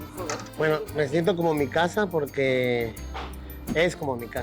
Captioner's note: speaking Spanish